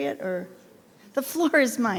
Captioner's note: speaking faintly